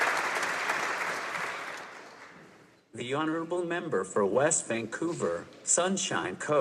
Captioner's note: applause